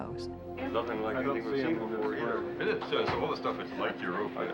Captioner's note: people chattering